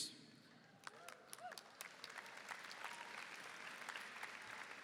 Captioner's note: applause